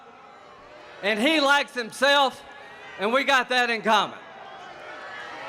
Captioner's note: boos